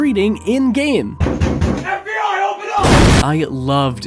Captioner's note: bang bang bang; kablooey